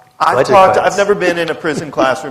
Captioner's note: laughter